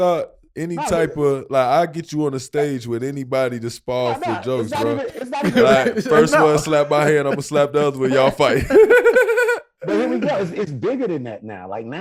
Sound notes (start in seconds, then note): 8.5 laughing